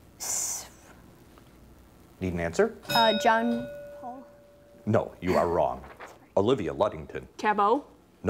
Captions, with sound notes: Need an answer. (bell rings) - John Paul. - No, you are wrong. Olivia, Ludington. - Tabow.